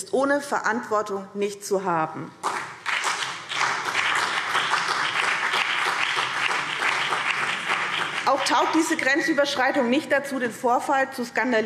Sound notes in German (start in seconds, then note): 2.4 Beifall BÜNDNIS 90/DIE GRÜNEN und CDU